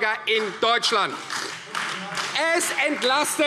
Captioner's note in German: Beifall Freie Demokraten